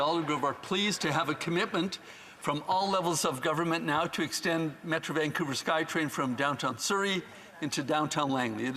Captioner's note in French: voix de l'interprète